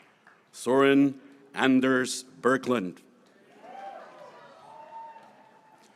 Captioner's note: speaking in foreign language